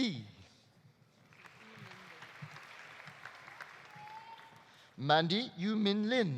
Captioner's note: audience applauding